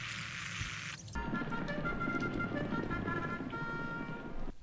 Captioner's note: horse race horn